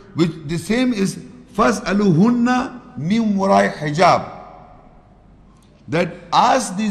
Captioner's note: Arabic